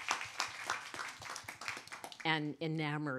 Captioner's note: applause